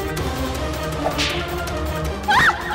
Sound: whips; screams

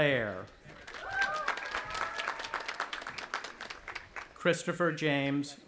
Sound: audience applauding and cheering

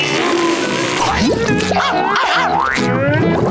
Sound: barking

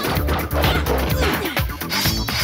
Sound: laughing

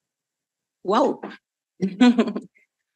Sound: chuckles

